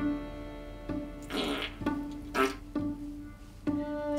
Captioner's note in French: Prout